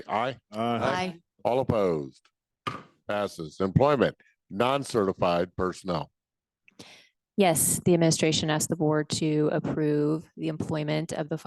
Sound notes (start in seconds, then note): 2.6 gavel thudding